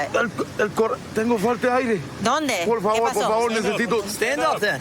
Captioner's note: speaking spanish